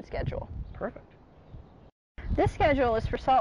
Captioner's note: quietly